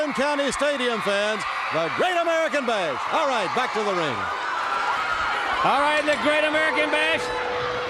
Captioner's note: crowd cheering